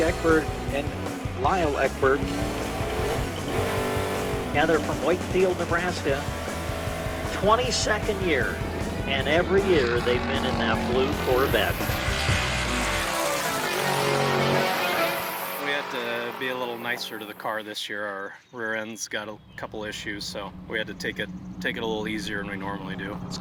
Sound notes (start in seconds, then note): 3.1 engine revving; 6.4 engine revving; 12.4 car engine blaring